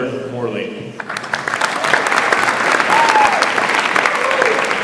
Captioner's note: audience applauds